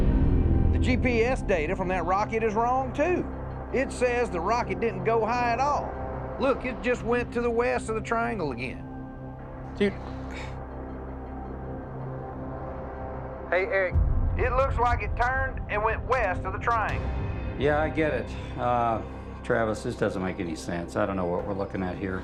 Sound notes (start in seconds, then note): 9.8 sighs